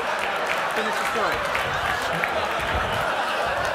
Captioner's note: voiceover